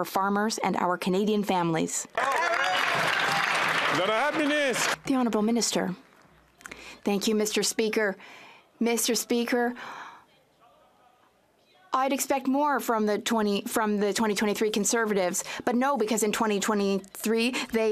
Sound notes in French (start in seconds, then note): 5.1 applaudissements